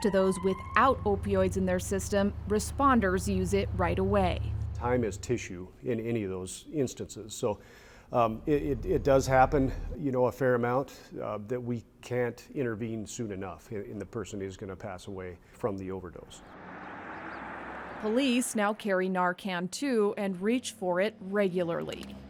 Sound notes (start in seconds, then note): 16.4 traffic whooshes